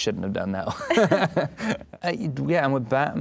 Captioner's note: laughing